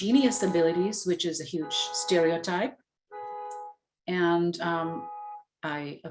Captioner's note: car honking